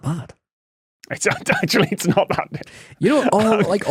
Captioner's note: laughs